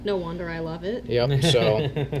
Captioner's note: laughs